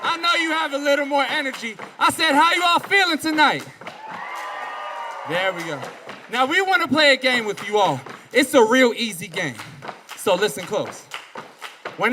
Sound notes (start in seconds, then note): 3.7 audience cheering